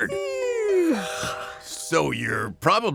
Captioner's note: yawns